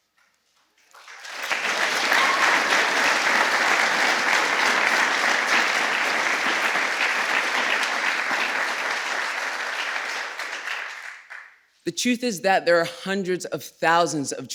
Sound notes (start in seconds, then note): 0.8 applause